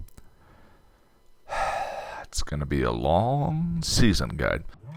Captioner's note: sigh